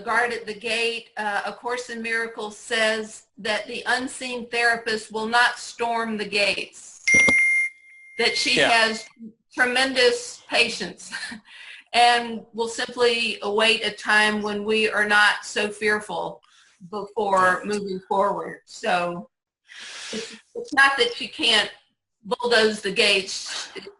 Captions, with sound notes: the guard at the gate, A Course In Miracles says that unseen therapist will not storm the gates. (bell rings) That she has tremendous patience and will simply await a time when we are not so fearful before moving forward. It's not that she can't bulldoze the gates,